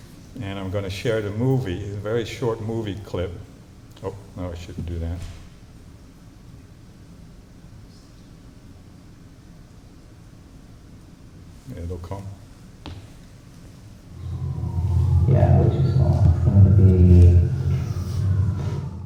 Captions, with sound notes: And I'm going to share the movie, a very short movie clip. Oh. No, I shouldn't do that. It'll come. [INDISTINCT CHATTER]